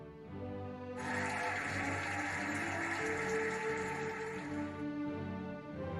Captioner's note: cheering and applauding